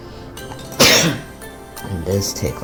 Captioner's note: coughs